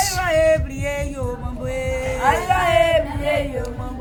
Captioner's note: women chanting